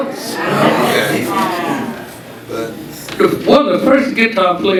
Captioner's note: audience chattering